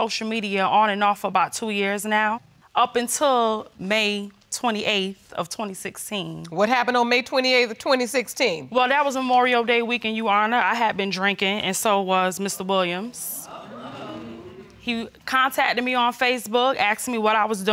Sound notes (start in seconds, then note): 11.2 audience murmuring